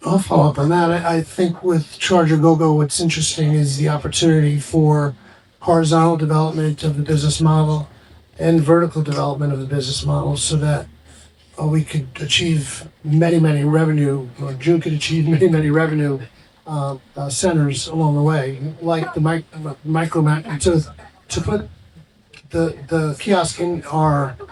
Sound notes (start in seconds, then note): 16.0 chuckles